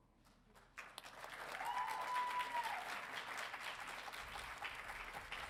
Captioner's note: audience cheering